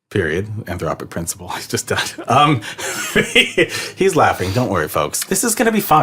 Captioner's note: laughs